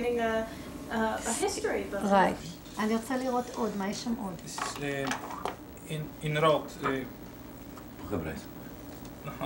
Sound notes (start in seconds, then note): 1.5 speaking Hebrew